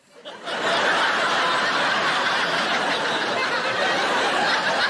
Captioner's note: audience laughing